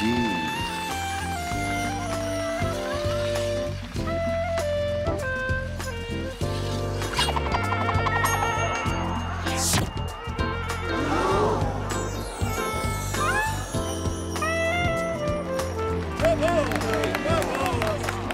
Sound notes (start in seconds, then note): 10.5 gasping